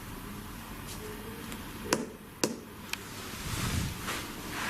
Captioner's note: taps